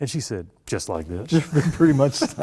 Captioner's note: laughter